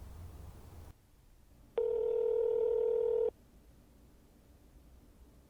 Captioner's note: phone ringing